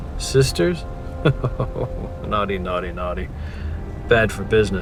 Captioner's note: laughing